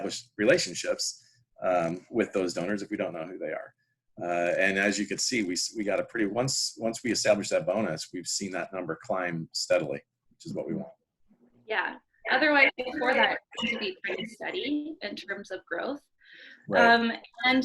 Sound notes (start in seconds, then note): 13.3 mic cut out